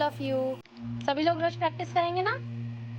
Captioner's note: speaking Hindi